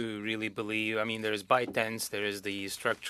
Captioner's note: speaking French